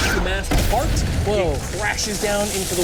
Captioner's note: explosion rumbles